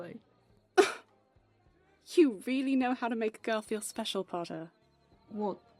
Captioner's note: Lily lets out a startled laugh